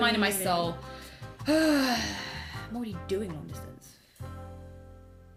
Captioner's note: exhales deeply